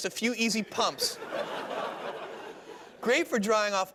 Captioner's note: laughter